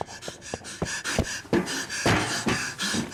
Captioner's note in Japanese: 荒い息